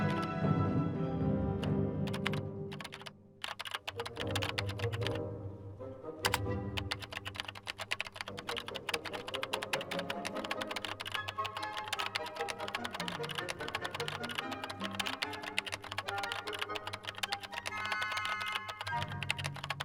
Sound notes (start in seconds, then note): 0.0 orchestrated music; 3.4 keyboard clicking